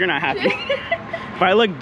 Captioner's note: giggling